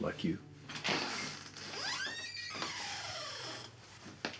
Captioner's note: door creaking